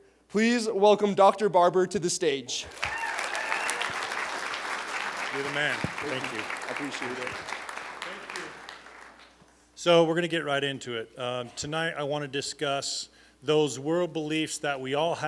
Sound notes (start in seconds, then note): 2.6 cheers, applause